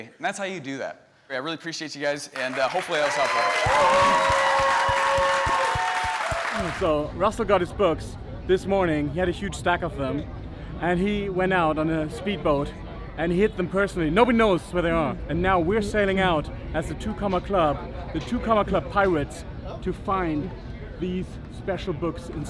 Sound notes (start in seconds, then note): 2.3 cheering and clapping